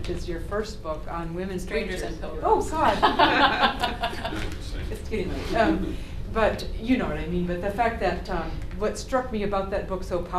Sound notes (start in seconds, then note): 2.8 laughter